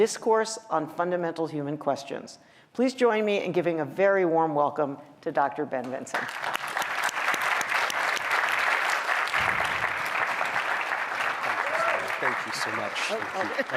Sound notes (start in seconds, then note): 6.1 applause